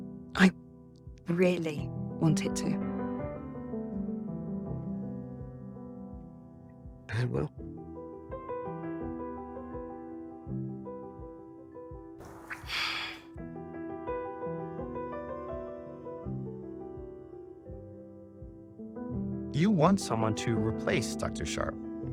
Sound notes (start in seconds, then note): 0.8 voiceover; 7.1 voiceover; 12.3 Helen exhales